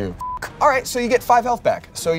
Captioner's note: beep